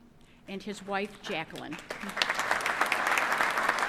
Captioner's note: applause